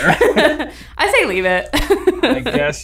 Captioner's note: laughs